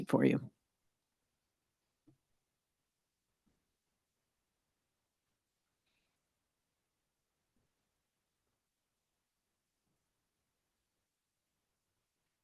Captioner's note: extended silence